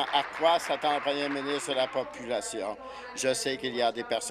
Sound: applause

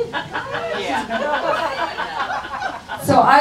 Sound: audience chuckles

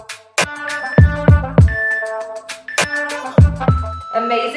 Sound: timer beeping

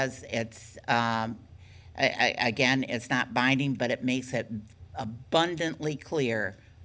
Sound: none

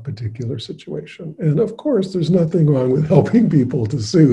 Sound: laughing

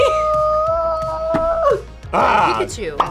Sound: squeaks

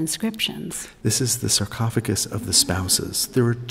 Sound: voiceover

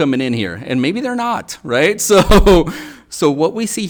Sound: laughs

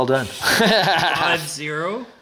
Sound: laughing

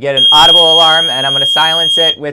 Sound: loud beep

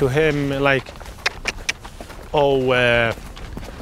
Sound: clicks tongue

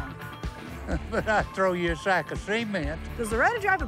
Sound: laugh

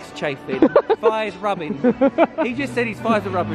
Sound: laughs

